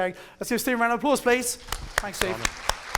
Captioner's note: audience applauds